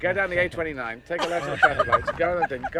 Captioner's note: woman laughing